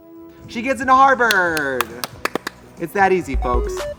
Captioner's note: both clapping